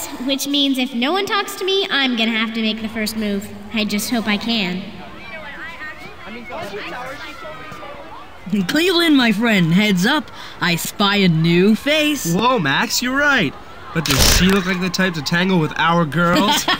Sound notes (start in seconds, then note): 14.0 camera shutter clicks; 16.3 both laughing